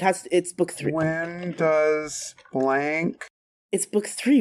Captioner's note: typing